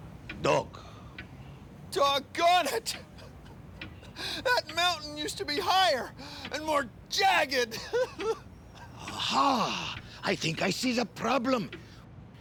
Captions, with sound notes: DOG. DOGGONE IT... [ SOBBING ] THAT MOUNTAIN USED TO BE HIGHER AND MORE JAGGED! AHA! I THINK I SEE THE PROBLEM.